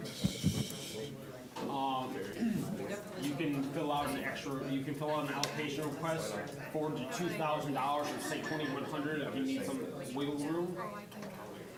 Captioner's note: students discussing